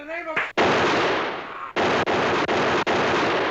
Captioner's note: gunfire